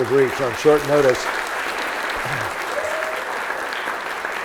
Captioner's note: audience applauds